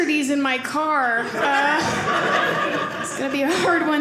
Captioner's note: audience laughing